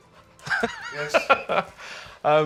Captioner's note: laughing